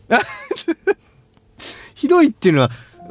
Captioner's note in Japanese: 笑い